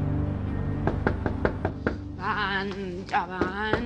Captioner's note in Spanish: Toques en la puerta